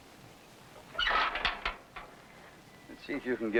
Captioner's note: metal clanking